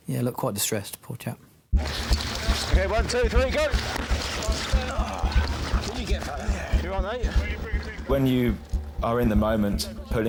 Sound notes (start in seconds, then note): 4.2 casualty groans